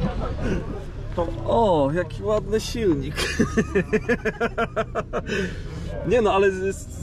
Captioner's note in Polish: śmiech